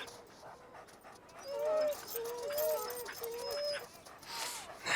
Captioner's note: dogs whining